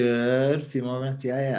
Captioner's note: speaking in foreign language